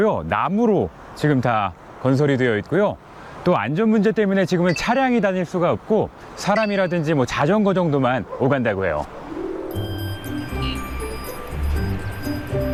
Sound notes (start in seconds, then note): 6.5 pedestrian and bicycle traffic